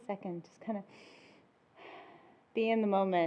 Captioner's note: breathes deeply